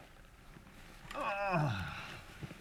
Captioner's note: grunt